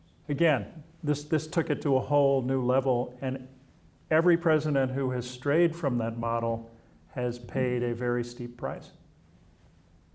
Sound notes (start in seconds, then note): none